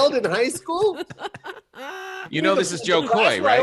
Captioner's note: laughing